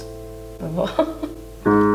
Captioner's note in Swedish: skrattar